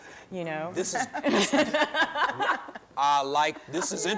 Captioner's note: chuckling